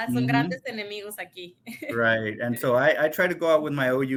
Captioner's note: speaks in Spanish